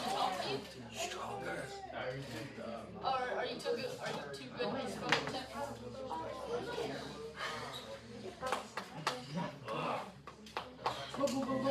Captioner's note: classroom chatter